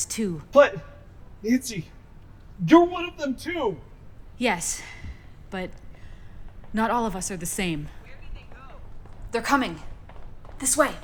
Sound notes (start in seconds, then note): 7.5 footsteps in the distance